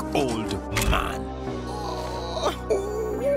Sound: moaning

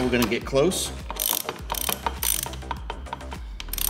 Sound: ratcheting

